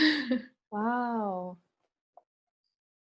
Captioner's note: laughs